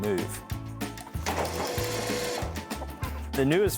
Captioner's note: machine revving